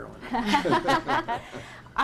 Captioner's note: laughter